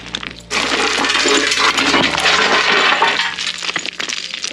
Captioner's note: metal clanking